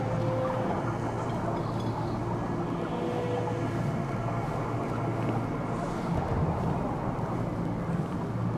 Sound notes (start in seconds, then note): 4.6 footsteps